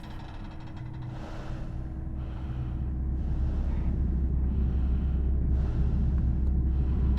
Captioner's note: metal creaking; heavy breathing